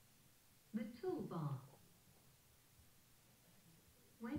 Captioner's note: voiceover